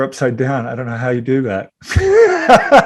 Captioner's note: laughing